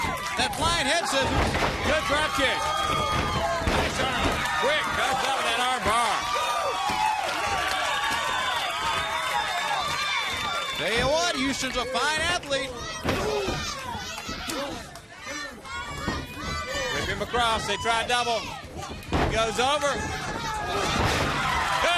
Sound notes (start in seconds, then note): 7.6 crowd cheering; 16.8 crowd chatter; 21.8 crowd cheering